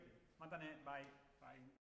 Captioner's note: speaks foreign language